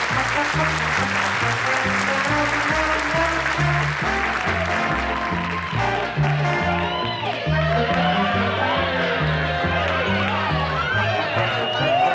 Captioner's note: applause